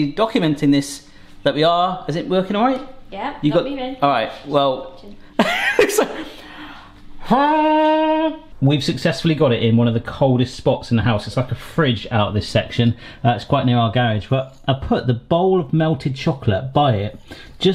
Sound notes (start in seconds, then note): 5.4 laughing; 7.4 horn blowing